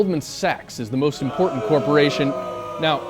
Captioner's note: booing